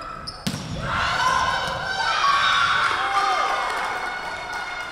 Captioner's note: whistle blowing